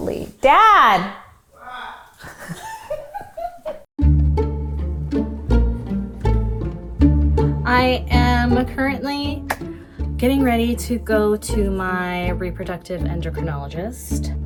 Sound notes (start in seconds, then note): 1.6 laughing; 4.2 quirky music